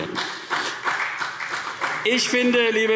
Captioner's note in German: Beifall CDU und BÜNDNIS 90/DIE GRÜNEN